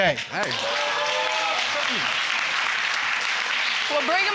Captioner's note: crowd cheering